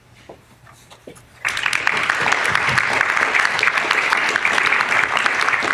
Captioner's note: applause